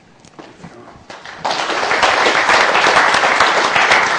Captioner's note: applause